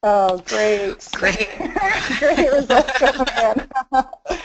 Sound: laughing

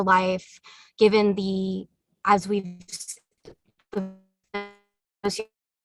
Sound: distorted audio

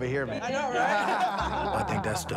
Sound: laughter

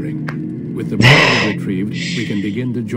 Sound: exasperated laugh

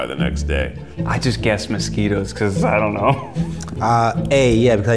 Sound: laughs

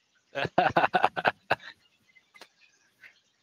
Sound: laughing

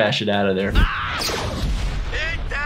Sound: Archer yells

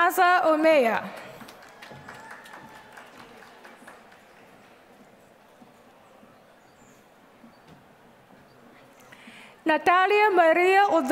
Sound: applause

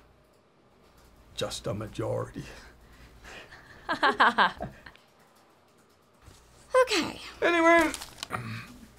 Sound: chuckles

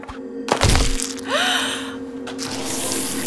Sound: crunch, squish

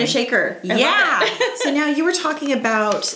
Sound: laughs

